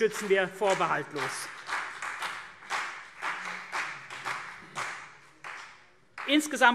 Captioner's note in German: Vereinzelter Beifall CDU und BÜNDNIS 90/DIE GRÜNEN